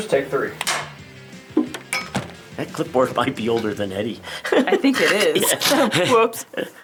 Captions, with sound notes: (clapperboard clacks) - That clipboard might be older than Eddie. (laughs) - I think it is. - (laughs) Yeah. - Whoops.